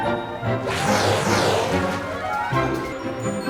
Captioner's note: water splashing; uptempo music